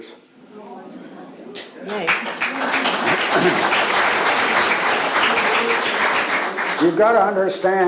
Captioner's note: audience Applause